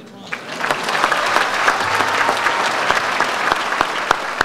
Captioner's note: audience applauds